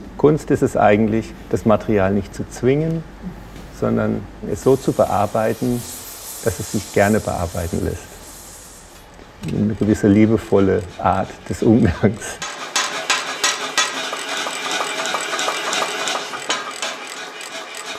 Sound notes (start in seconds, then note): 12.7 mechanical pumping in the background